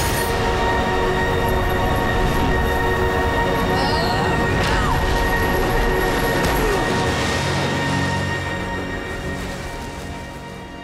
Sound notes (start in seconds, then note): 3.1 grunting; 5.7 groaning